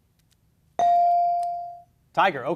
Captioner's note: beep